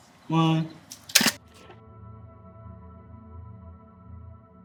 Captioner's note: camera clicks